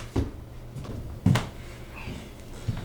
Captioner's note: slap